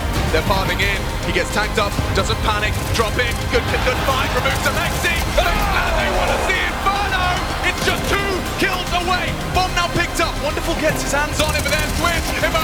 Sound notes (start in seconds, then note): 2.0 explosion booming; 3.6 gun firing; 5.4 gun firing; 8.7 gun firing; 12.1 gun firing